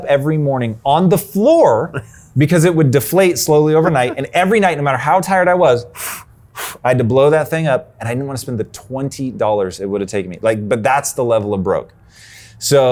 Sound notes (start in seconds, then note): 3.4 laughing; 5.9 blows air